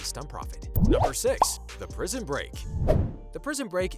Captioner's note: bubble pop